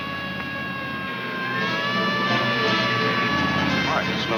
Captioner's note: siren blaring